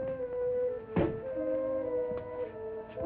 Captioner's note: suspenseful music; safe clattering